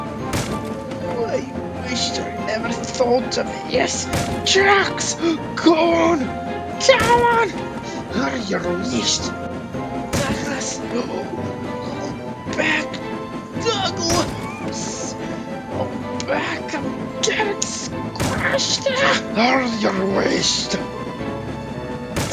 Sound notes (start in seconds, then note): 12.3 gasp